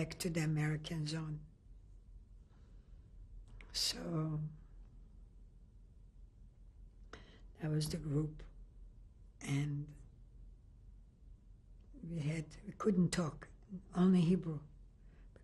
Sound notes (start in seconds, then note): 4.0 pauses for 3 seconds